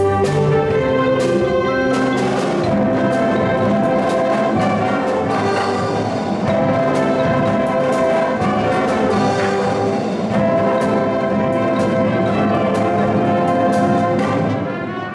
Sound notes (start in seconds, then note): none